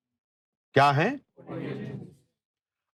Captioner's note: audience replies